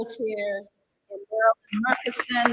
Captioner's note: applause